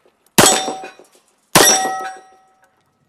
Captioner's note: bang